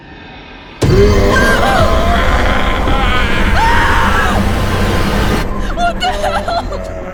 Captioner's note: dramatic scary music; Bloodbath demon growls; Sarah screams; sobs